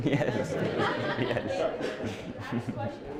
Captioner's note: laughter